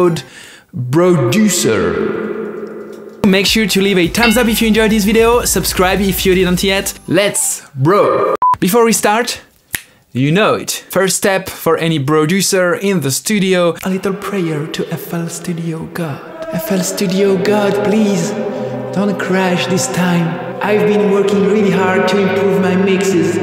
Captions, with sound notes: BRODUCER Make sure to leave a thumbs up if you enjoyed this video Subscribe if you didn't yet... LET'S... BRO!!! *Beep* Before we start *Snap* You note, the first step for any Broducer in the studio a little prayer, to FLStudio God. FL Studio God... Please... Don't crash this time... I've been working really hard to improve my mixes...